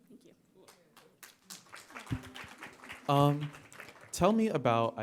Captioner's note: audience applauding